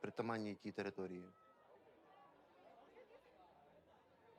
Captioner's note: people chattering